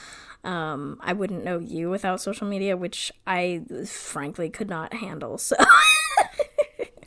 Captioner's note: laughs